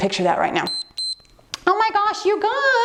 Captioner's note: timer beeps